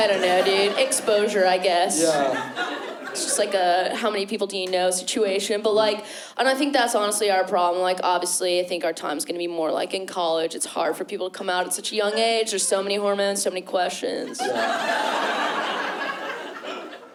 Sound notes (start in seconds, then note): 14.2 laughter